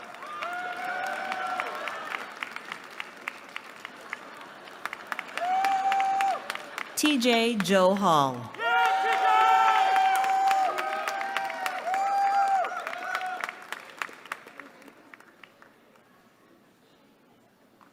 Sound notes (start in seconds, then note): 8.4 cheering